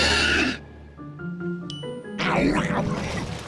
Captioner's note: bell dings